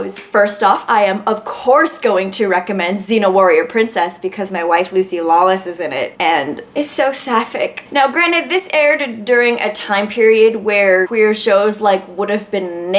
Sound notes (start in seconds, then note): none